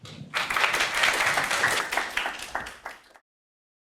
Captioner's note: audience applauding